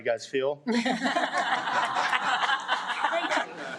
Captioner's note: audience laughs